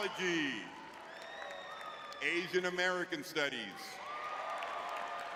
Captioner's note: audience cheering; audience cheering